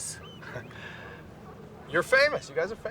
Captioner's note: laughs